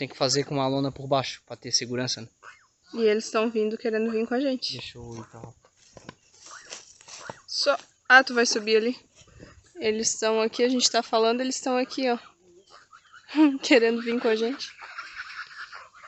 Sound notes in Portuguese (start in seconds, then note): 7.5 risadas